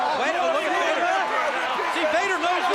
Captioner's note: crowd chattering